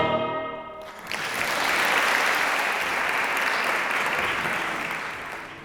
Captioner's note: applause